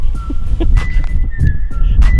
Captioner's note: laughing; quirky music